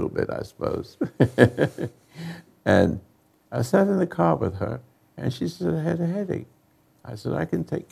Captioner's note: chuckles